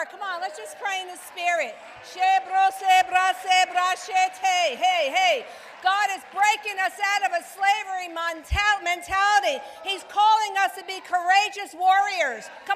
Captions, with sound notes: Come on, let's just pray the spirit. (Speaking in tongues) God is breaking us out of a slavery mentality. He's calling us to be courageous warriors.